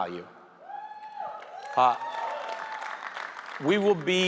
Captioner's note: audience cheering